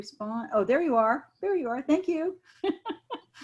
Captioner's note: laughing